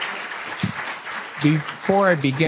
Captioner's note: applause